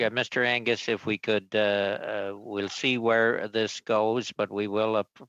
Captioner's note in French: voix de l'interprète